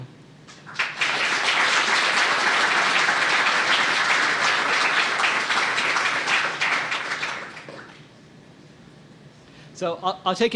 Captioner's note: applause